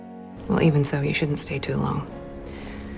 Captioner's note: voiceover